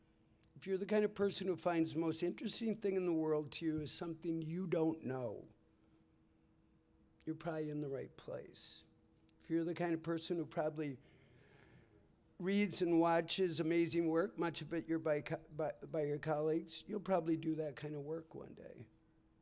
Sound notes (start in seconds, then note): none